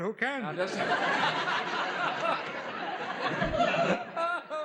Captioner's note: laughs